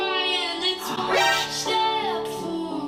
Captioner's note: gasps